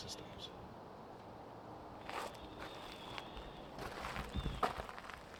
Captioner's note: wind